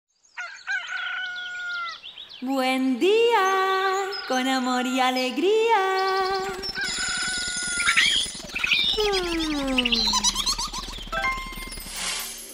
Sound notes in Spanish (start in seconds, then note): 0.2 Sonido de gallo y pajaritos; 2.0 Sonido de pajaritos; 5.8 Sonido de gallo y pajaritos